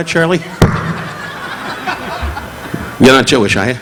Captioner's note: audience laughing; mic thudding